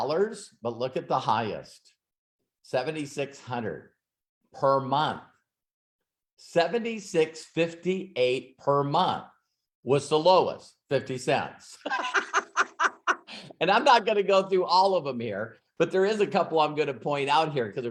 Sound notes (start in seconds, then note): 11.8 laughs